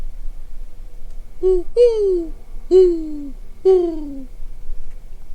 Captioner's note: owl calls